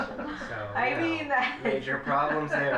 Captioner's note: laughing